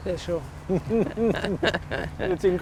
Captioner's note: laughs